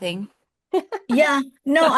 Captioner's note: laughs